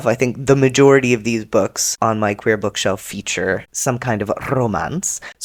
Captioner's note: rolls r